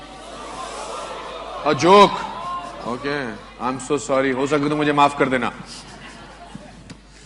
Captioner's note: in Hindi